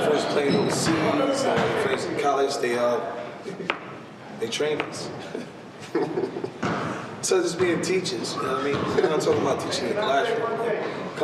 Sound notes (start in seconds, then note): 5.8 laughing